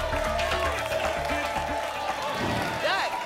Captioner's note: applause and cheering cont